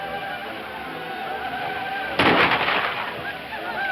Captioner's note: more gunshots